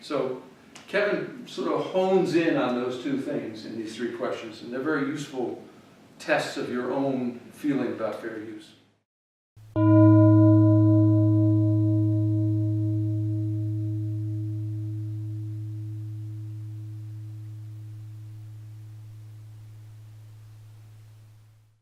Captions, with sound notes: So Kevin hones in on those two things in the three questions. And they're very useful tests of your own feeling about fair use. [GONG]